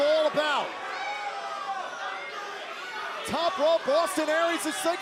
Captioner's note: crowd chatter